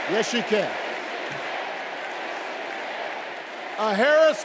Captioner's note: crowd chanting